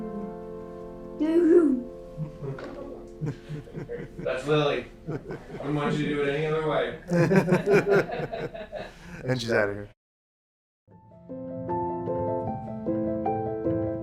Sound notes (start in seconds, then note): 3.2 everyone laughs; 11.0 light music